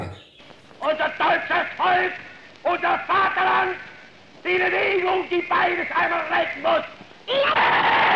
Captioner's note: German speech; cheering